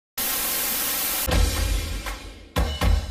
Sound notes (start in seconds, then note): 0.2 TV static; 1.2 percussion music plays